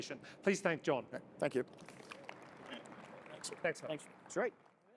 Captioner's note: audience applauds